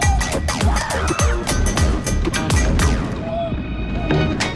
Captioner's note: riders yelling